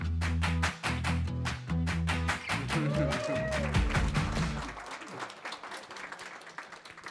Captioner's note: upbeat music; audience applauding